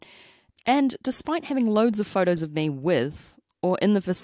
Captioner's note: none